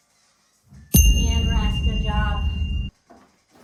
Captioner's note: ding